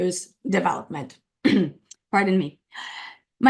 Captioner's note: coughs